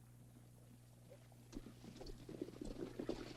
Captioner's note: horses trotting